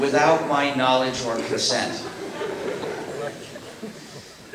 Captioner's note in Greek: Γέλια από το ακροατήριο